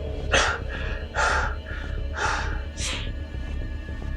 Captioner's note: heavy breathing